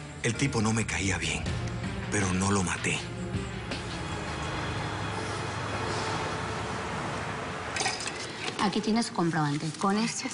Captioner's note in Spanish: Ruidos del tráfico